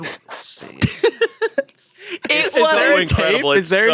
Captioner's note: everyone laughs